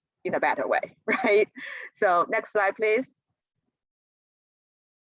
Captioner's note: laughter